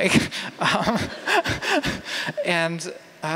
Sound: laughter

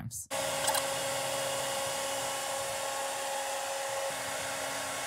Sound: CNC machine noise

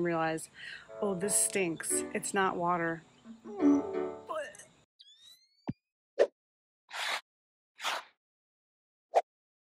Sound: puking sound

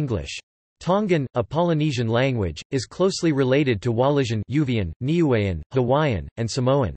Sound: Uvean

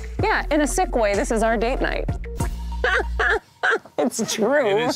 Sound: laughing

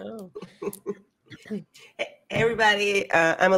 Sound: chuckles

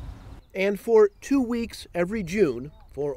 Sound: voiceover

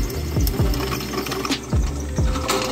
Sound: grilling

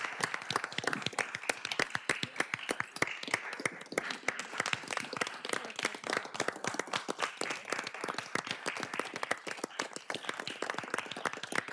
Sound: applause

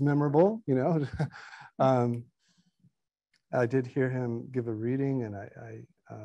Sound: chuckles

